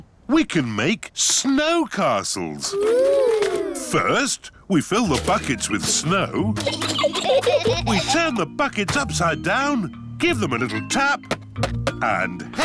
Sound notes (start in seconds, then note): 0.2 oinks; 6.3 giggling